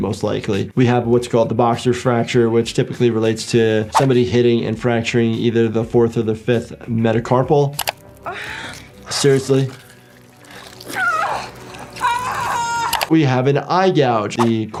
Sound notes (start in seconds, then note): 7.8 mouse clicking; 8.3 victim grunting; 12.0 victim yelling